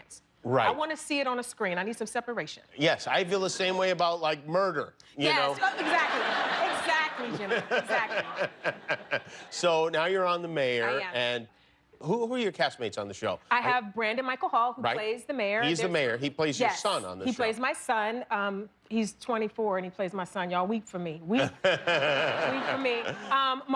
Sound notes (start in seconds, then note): 5.5 laughter